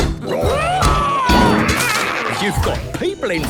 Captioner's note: all roaring